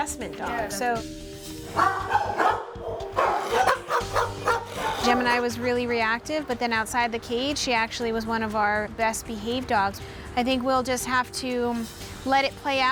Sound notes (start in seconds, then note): 1.7 dogs barking